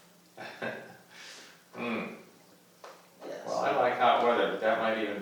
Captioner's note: laughs